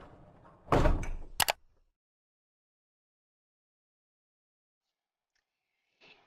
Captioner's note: thuds; clicks